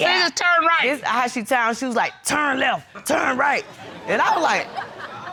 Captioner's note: deep voice